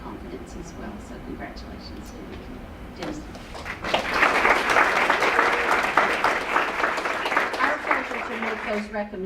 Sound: applause

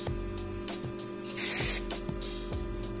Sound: spray hiss

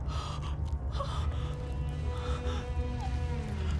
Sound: Cherise gasping

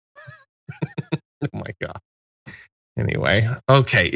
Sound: laugh

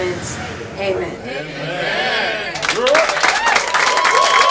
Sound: group cheers

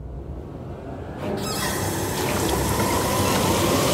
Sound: tap water sound

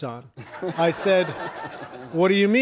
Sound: audience laughs

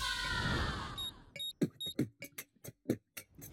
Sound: beat boxing

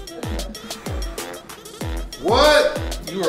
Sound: air swooshing

